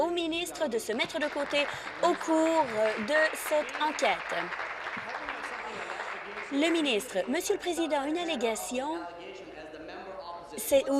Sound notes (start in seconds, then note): 6.5 applause